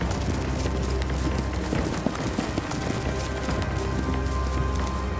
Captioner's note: hoofbeats; suspense music